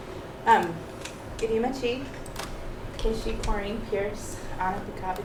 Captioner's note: non-english